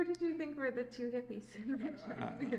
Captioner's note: laughs